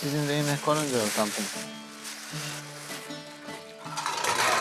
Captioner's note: paper crinkling; dishes cluttering